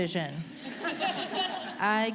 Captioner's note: audience laughing